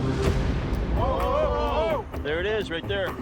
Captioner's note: all exclaim